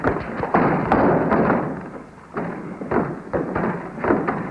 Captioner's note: footsteps thumping; door rattles